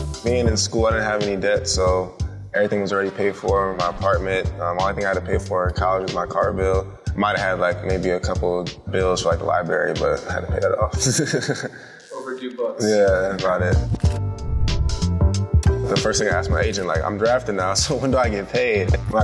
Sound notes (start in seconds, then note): 10.9 chuckles; 14.0 chill music